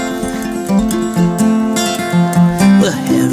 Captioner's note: howling